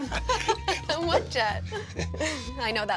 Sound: laughs

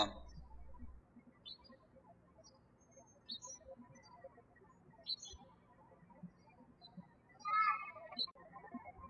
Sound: birds chirping

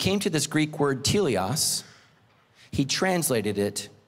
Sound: speaking foreign language

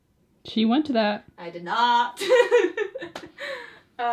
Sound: laughs

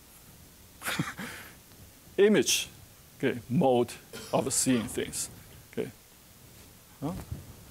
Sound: chuckling

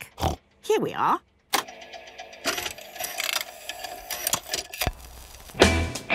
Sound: clicks, whirring

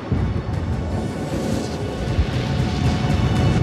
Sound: whooshing

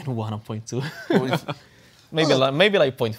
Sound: laughter

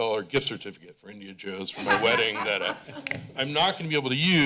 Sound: laughter

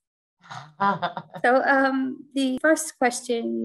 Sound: laughs

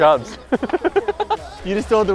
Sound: laughter

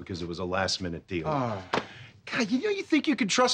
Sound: sighs

